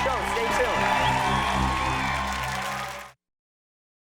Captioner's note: audience cheers and applauds